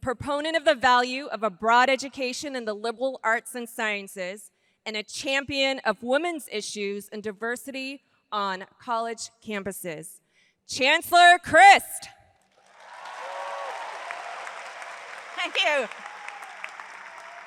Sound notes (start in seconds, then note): 12.6 audience applauds